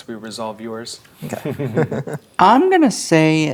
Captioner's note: chuckling